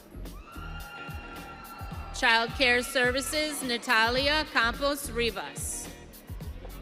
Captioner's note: audience cheering